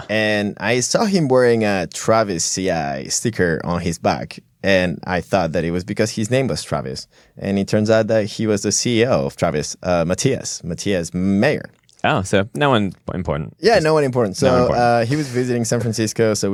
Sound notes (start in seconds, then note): 12.3 sarcastically